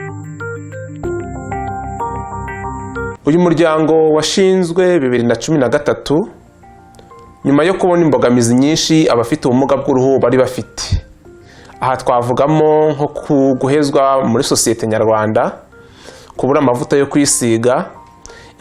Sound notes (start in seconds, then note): 3.1 speaking in Kinyarwanda